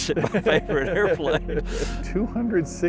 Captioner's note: laughing